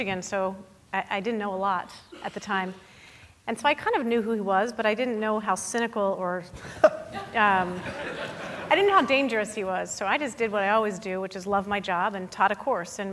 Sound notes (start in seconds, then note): 7.7 chuckling; 7.7 audience laughing